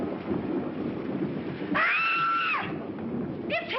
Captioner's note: screams